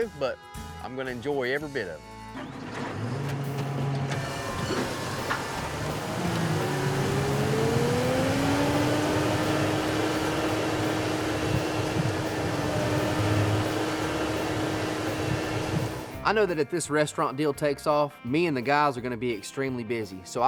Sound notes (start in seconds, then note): 2.4 motor starting; 6.5 motor accelerating